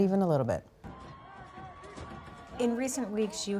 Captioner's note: crowd screaming